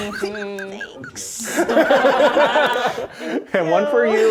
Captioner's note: players laughing